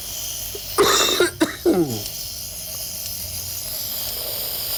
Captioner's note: coughing